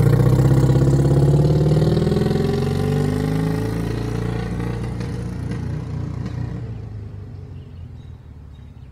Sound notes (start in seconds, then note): 3.1 engine sound fades away; 5.1 engine pops a bit as it reaches higher revs